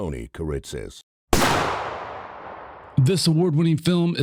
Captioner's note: gun shot